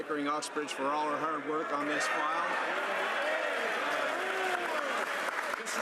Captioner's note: some Applause